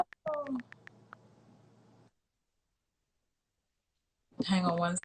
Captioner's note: brief Silence